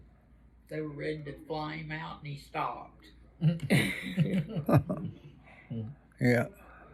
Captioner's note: laughs